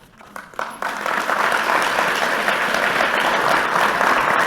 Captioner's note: audience applauding